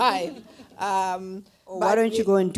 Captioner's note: laughter